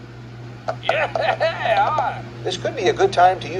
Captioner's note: pat; Martin cheers